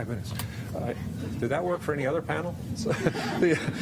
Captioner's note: laughter